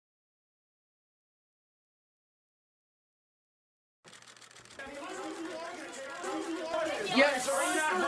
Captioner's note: shouting from crowd of journalists